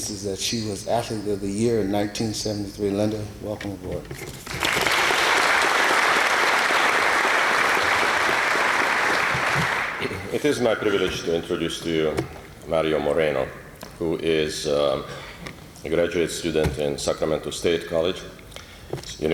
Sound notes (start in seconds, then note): 4.5 applause